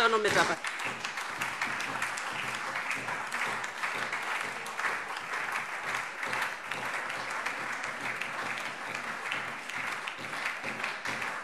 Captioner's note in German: Anhaltender lebhafter Beifall DIE LINKE, SPD und Freie Demokraten